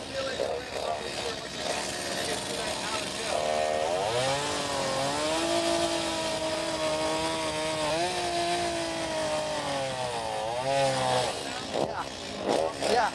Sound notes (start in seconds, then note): 3.4 chainsaw grinding